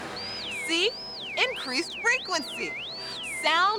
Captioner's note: normal voice